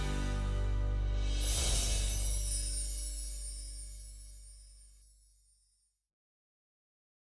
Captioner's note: air whooshes; wind chimes